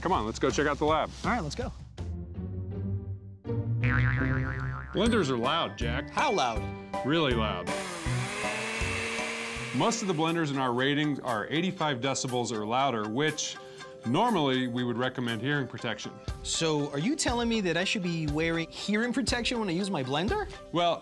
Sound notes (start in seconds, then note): 3.8 boing; 7.6 blender whirring